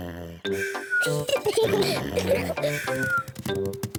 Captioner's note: snores; peppa pig and george giggling